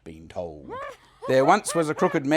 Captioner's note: skeleton laughing maniacally